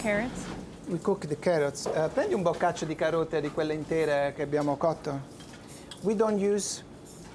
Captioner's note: speaking Italian